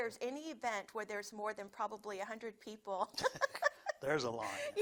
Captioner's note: laughs